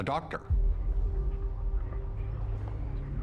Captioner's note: low tones